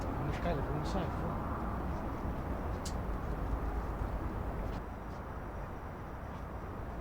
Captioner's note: traffic humming